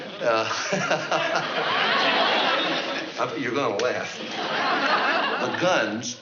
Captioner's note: laughs